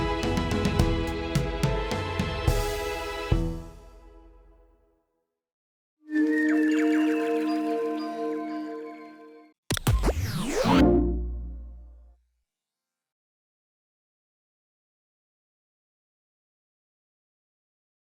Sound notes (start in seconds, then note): 6.4 birdsong, mystical chiming; 9.6 static buzzes, whooshing, warm tone